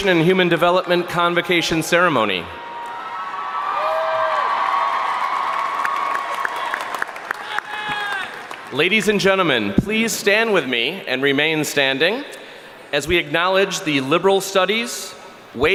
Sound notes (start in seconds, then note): 2.4 crowd cheering; 5.4 applauding